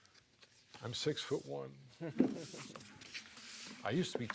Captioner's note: chuckles